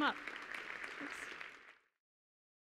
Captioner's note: clapping